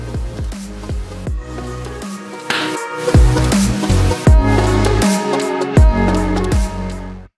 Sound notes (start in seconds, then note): 2.4 claps